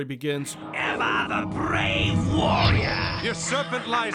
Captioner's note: laughs evilly